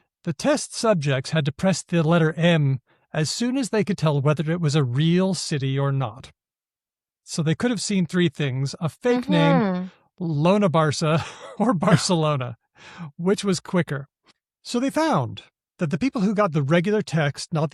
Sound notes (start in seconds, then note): 11.1 chuckles